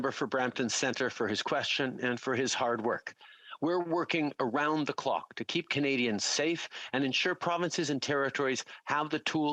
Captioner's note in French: voix de l'interprète